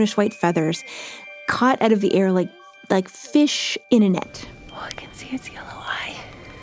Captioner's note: whispers